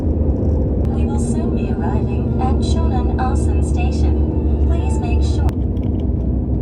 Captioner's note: I'm chewing quietly so that I don't make a loud noise